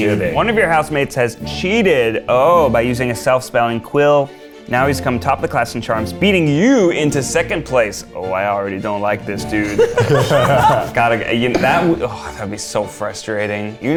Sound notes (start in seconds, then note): 9.6 all laugh